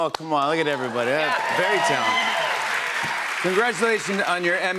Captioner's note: cheers and applause